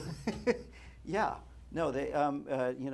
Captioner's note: laughter